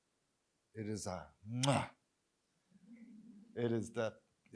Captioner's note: kiss